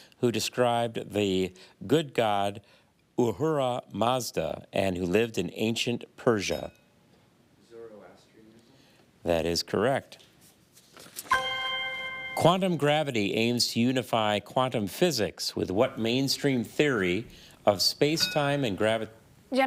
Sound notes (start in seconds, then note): 6.4 bell dings; 11.3 chime resonating; 18.2 bell dings